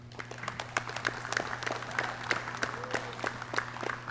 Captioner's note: clapping